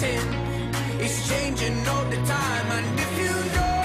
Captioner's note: applause